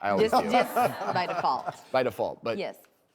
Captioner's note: laughing